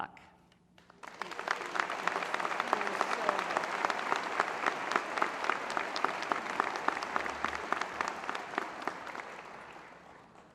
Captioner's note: applause